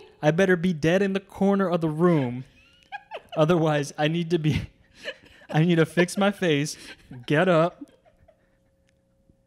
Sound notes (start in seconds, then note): 0.0 laughs; 4.8 laughing